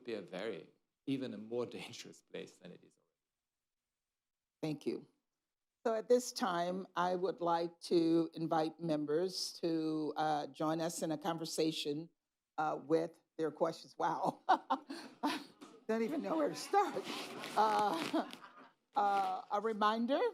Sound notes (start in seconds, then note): 16.1 laughs; 17.6 laughter